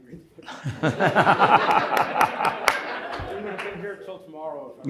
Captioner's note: audience laughs